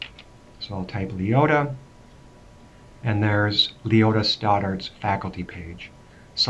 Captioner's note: typing